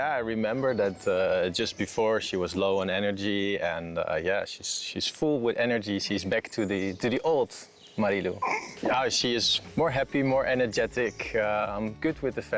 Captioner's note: voiceover